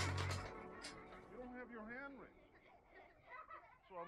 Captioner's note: metal Door Clangs